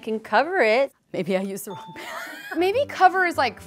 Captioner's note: ding; laughs